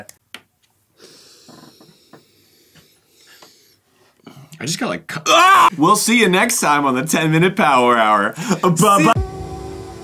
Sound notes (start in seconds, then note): 1.0 loooong sniff